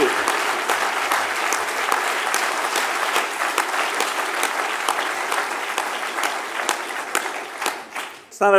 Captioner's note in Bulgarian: още аплодисменти